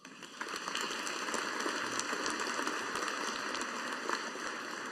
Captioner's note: audience applauding